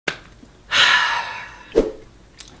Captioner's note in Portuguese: Suspiro